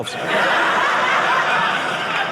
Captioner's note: audience laughing